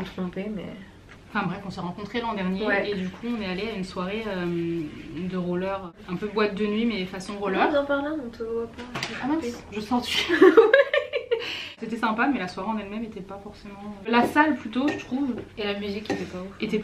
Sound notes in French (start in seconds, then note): 10.2 rires